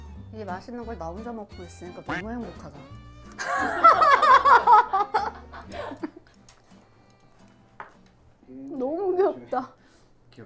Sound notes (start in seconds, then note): 3.4 laughing